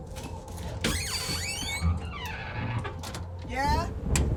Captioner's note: door squeaking